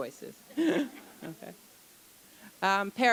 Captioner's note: chuckle